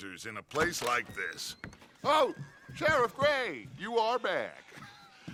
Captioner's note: laughs